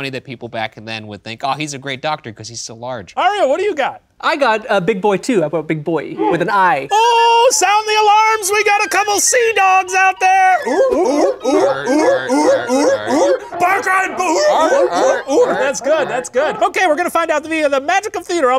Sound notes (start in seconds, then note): 10.2 all barking